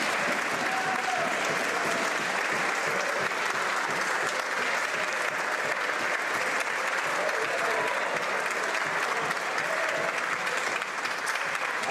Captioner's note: applause